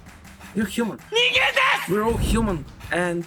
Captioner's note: speaks Japanese